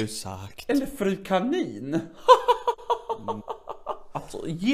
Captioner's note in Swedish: skrattar